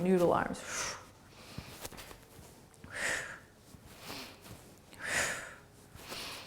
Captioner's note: breathing